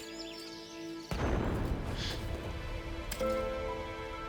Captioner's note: loud boom